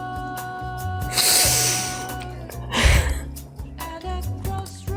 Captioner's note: sharp intake